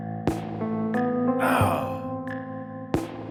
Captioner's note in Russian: стон от боли